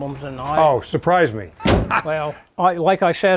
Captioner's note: laughs